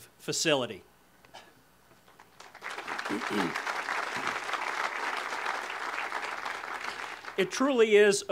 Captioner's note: audience applause